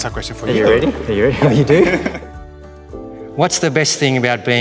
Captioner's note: laughing